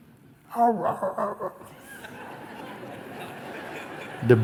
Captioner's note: imitates dog barking at a flying bird; laughter